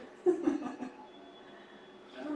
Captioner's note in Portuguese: risos